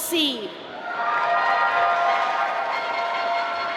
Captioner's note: applause